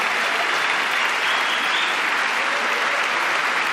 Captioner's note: applause